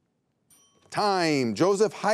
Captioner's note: timer rings